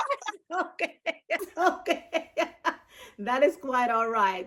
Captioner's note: laughing; laughs